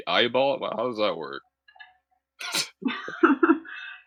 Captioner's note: laughter